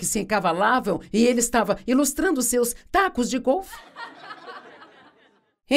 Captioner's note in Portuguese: audiência ri